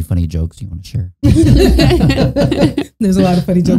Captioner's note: all laughing